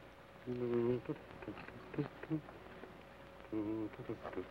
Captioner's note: hums melodically